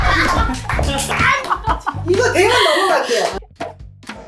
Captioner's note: laughing uncontrollably